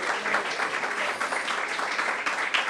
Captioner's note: applause